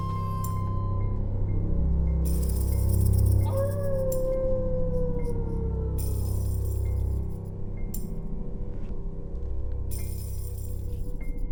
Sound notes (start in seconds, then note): 3.6 boy howling; 3.6 keys jangling